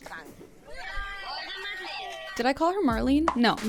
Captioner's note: show contestant speaking in German; show contestants cheering